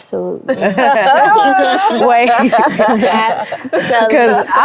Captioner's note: everyone laughs